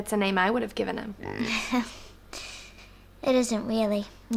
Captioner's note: laughs